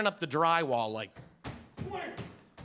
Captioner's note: stomping